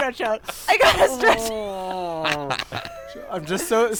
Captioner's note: laughter